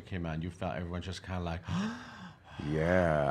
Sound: gasps

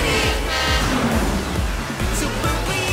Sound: honking

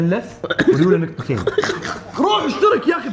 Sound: laughs

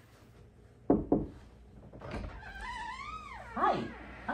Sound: knocking, door opening

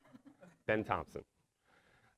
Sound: audience laughing

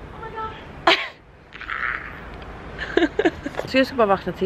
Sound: laughter

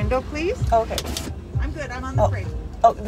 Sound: window bzzzz

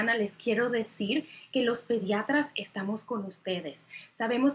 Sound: speaking Spanish

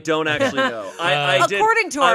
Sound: laughing

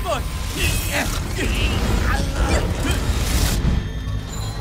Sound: both grunting

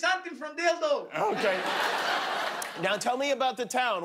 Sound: laughter

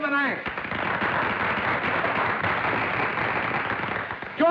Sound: crowd Applauding

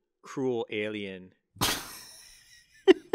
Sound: laugh

